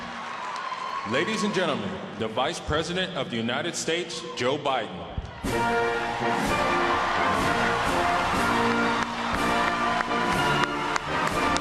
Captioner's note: applause